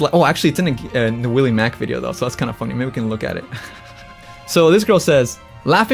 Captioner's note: laughs